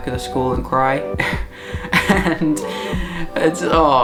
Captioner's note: laughing